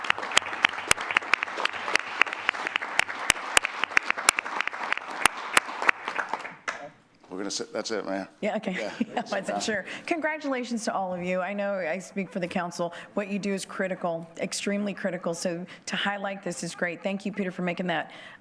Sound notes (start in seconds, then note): 2.6 applause